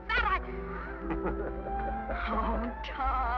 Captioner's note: chuckles